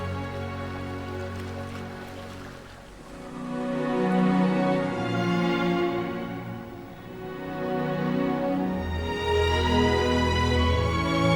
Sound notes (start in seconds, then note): 2.7 wind howling